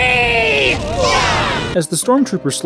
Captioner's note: explosion and screaming